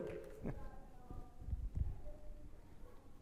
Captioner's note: audience member chattering